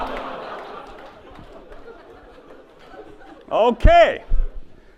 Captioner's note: audience laughs